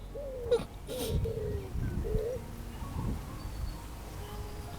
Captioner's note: sobs